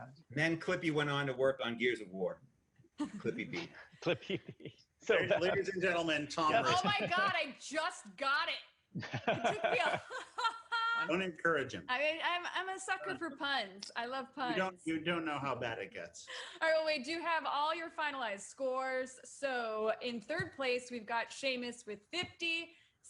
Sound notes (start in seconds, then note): 9.0 laughs